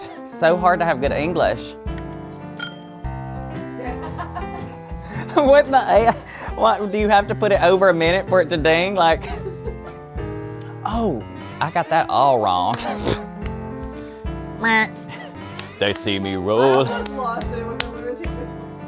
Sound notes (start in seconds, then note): 2.6 quiet bell; 3.8 off-camera laughter; 9.2 laughs; 12.9 laughs; 16.4 laughs